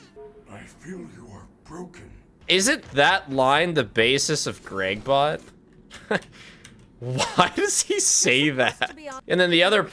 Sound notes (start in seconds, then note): 7.0 laughing; 7.0 laughs